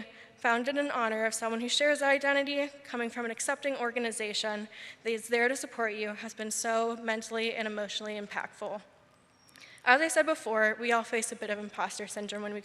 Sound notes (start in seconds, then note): none